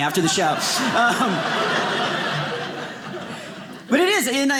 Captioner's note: audience laughing